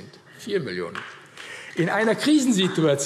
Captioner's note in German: Vereinzelter Beifall AfD